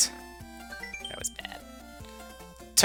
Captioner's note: quietly